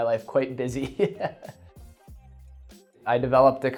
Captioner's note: laughs loudly